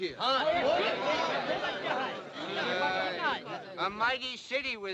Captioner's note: indistinct excited chatter